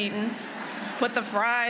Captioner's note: laughter